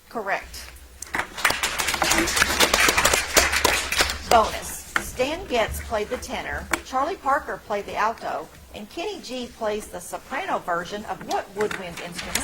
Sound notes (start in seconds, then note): 0.6 audience applauds